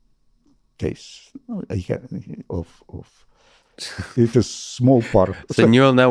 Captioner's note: chuckles